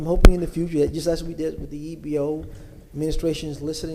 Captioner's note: ~audio distortion~